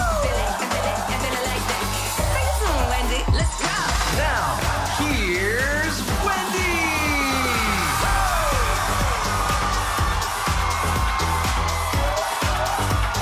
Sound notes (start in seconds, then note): 7.2 audience cheering; 9.9 upbeat music